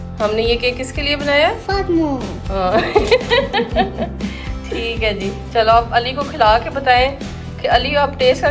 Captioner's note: laugh